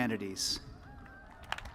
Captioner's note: applause